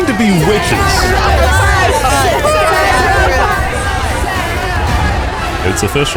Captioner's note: chanting